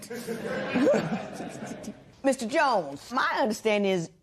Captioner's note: laughter